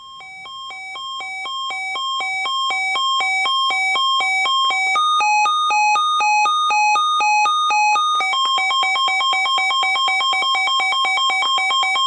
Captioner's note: beeping